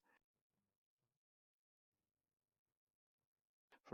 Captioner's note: silence